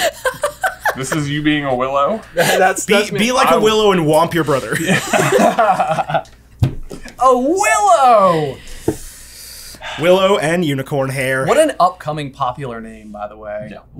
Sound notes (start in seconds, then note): 0.0 laughing; 4.7 laughter